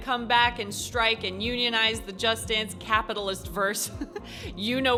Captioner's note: chuckles